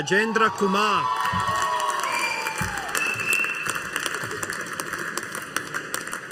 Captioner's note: audience applauding